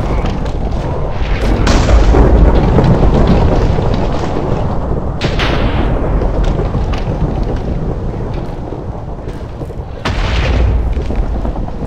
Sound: thunder Strikes

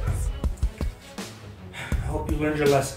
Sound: sigh

